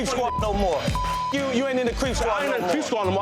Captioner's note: beep